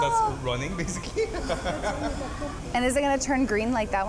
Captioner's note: laughs